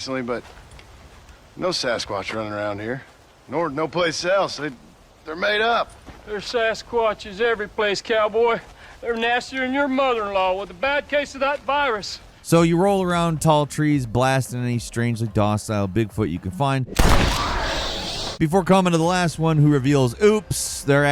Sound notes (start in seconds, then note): 16.9 gun firing